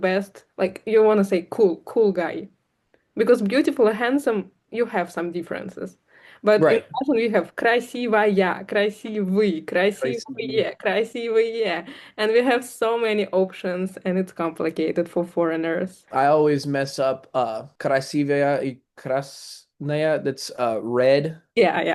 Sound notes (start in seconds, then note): 10.1 russian